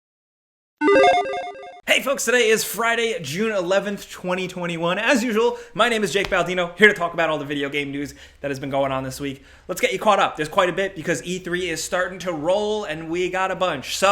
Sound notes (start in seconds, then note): 0.8 logo beeps